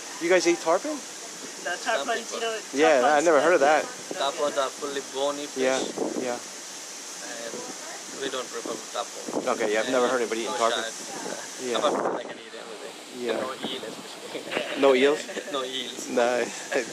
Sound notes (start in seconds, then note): 11.7 wind blows; 14.2 laughs